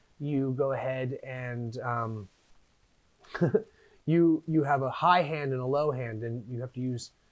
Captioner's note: chuckles